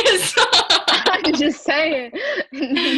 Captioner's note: laughing